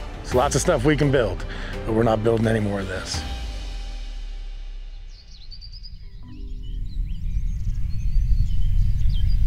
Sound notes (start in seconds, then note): 3.6 uplifting music; 4.8 birds chirping